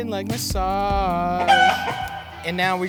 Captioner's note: chicken squawks